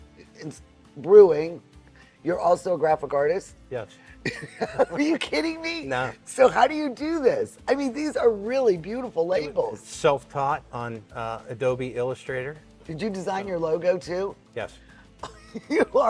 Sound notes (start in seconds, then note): 4.2 chuckles; 4.2 laughs